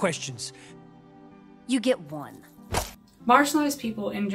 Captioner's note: air swish and grabbing sound